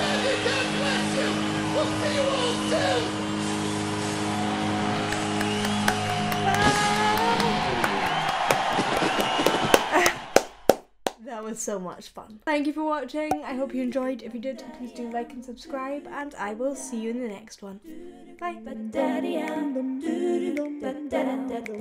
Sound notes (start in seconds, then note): 0.0 heavy-rock music continues; 5.0 clapping; 9.8 laughing; 18.4 upbeat music